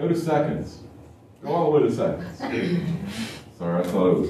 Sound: laughter

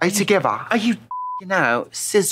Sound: British accent; beeping

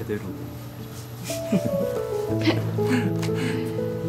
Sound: Hyun-young, Joon-seok’s laughter

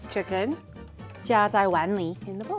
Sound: speaking in mandarin

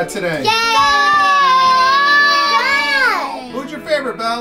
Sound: girls screaming

